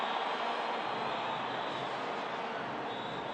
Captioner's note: applause